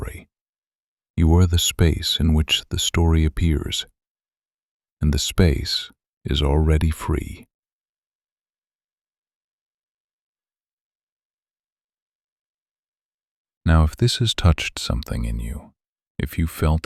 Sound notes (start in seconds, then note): 3.5 long pause